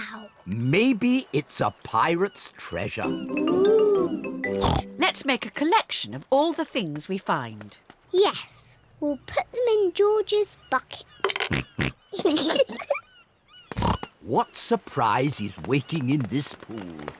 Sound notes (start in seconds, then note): 11.7 oinks; 12.1 both giggle